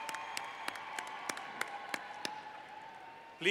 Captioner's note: applause